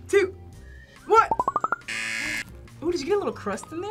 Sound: buzzer

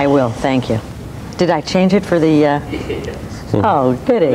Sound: chuckles

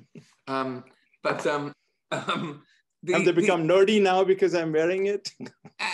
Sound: laugh

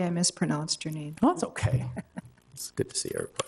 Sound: laughs

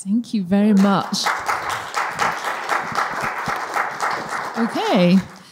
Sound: audience applauding

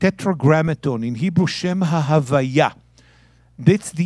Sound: speaking in Hebrew

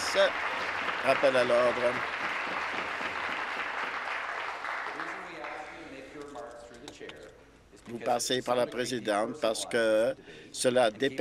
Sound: applause

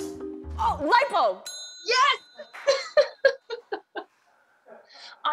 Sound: laughs

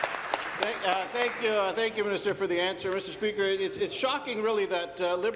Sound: applause

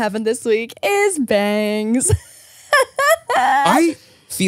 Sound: laughs

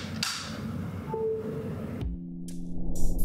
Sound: connected sound

